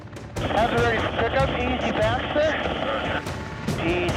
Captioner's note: man On Radio